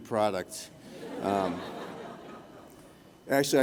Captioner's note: laughter